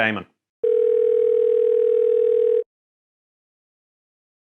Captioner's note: phone ringing